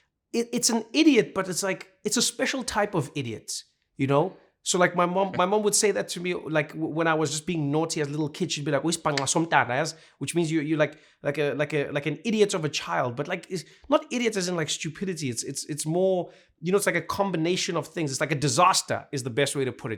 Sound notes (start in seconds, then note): 8.7 speaking Xhosa